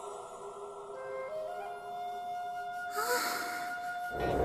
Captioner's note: eerie music; sighing